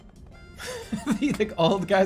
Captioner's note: laughing